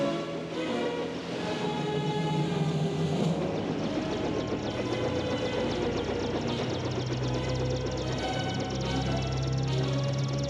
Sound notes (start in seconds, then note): 3.3 helicopter engine starting